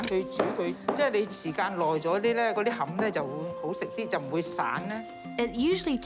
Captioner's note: speaks chinese language